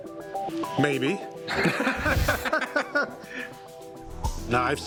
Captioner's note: laughter